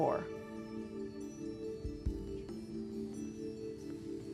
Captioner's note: whispering